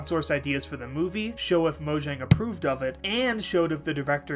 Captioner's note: stamp noise